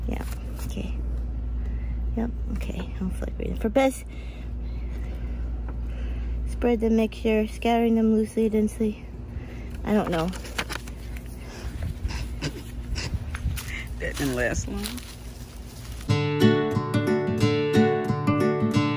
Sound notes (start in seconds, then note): 12.0 giggling; 16.1 upbeat music